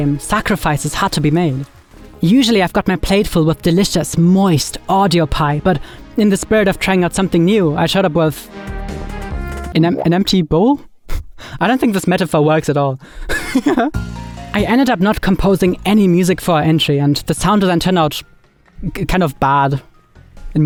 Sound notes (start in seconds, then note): 9.1 lively music; 13.3 laughs